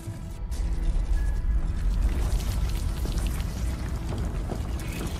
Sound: earthquake rumbling

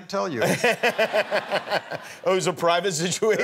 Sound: laughing

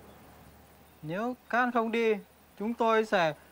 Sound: Vietnamese

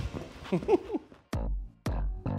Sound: laughs

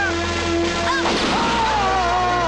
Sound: gunshot

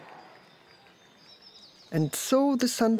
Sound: birds chirping

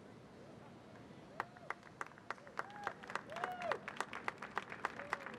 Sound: audience clapping

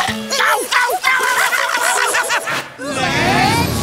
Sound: screaming

